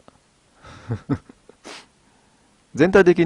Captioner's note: laugh